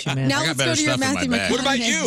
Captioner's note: laughing